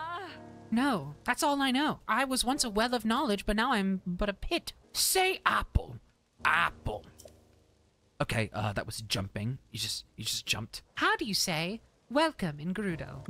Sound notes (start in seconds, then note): 4.8 Wheatley Voice